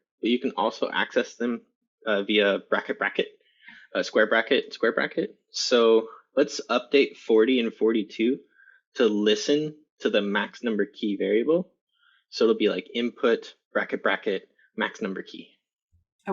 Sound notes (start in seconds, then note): none